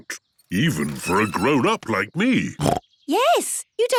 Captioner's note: snorts